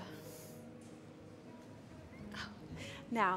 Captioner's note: murmur of guests assembling